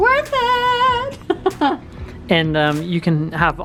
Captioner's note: laughs